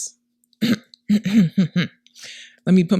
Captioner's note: clears throat